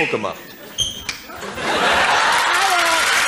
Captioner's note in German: Gelächter